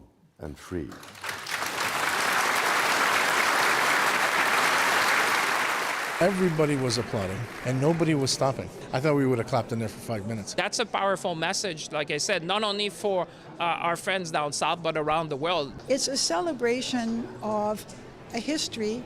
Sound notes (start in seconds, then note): 3.5 applause